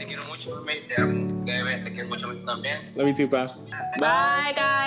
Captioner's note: speaking Spanish